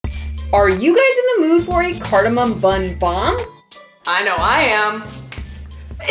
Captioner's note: snap